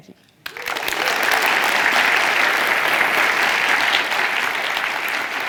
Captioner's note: audience clapping